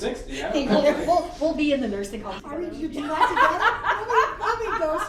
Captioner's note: laughs